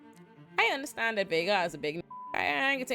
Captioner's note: beep